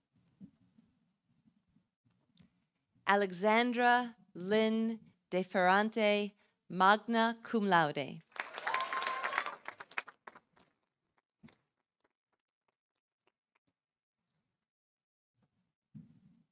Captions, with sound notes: Alexandra Lynn Defarante, magna cum laude. -(audience cheering) -(audience applauding)